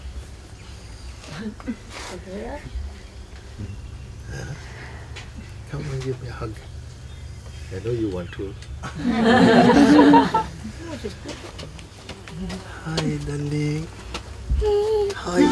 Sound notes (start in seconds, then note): 8.8 laughter; 14.6 child giggling